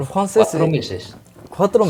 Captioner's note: Spanish